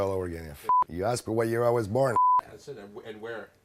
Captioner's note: beep